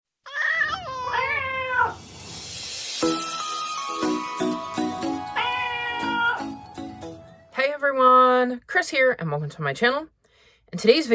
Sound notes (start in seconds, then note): 0.0 meowing Cats